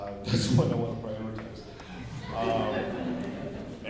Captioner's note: laughter